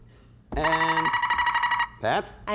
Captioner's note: buzzer sounds